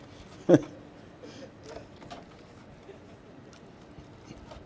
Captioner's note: laughs